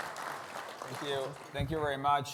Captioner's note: audience applauding